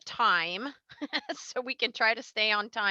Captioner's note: laughs